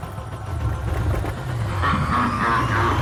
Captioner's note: evil laugh